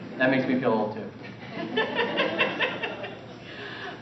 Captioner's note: laughter